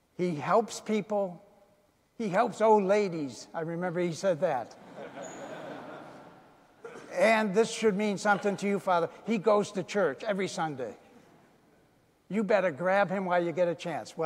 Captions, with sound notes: "He helps people, he helps old ladies." I remember he said that. (audience laughing) "And this should mean something to you, Father. "He goes to church every Sunday. "You better grab him while you get a chance."